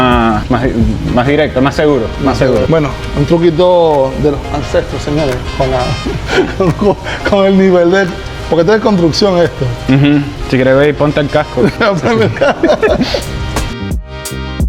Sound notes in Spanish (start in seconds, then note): 6.1 risas